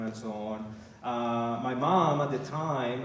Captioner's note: none